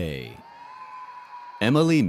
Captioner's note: audience cheers and applauds